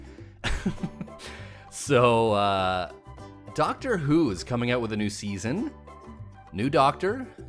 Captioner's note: laughs